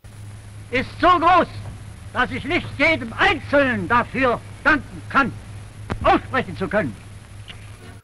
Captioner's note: German speech